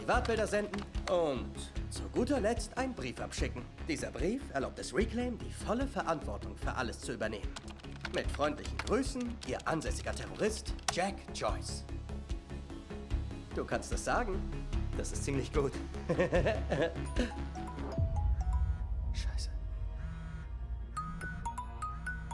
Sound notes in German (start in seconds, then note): 16.0 lacht; 17.2 klingelton